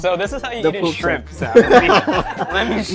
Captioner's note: laughs